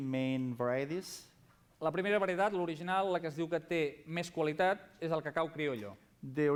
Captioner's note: non-english speech